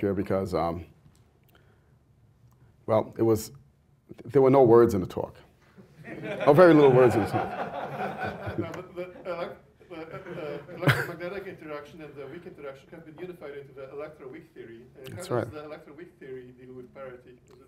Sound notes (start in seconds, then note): 5.9 laughter